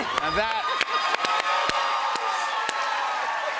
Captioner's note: cheers and applause